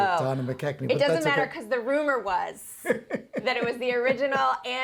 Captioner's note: laughs